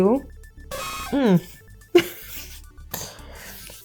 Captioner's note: laughing